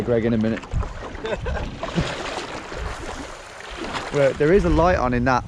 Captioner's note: laughs